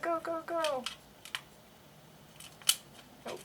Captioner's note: plastic clicks